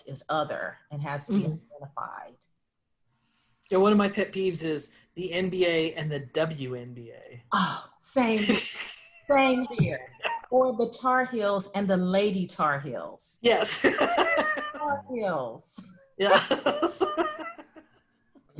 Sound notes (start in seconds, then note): 7.6 sighs exasperatedly; 13.5 laughing; 16.2 laughs